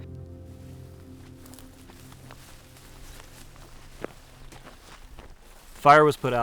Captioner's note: music fades out; footsteps crunching